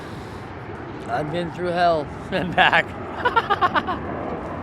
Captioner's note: laughter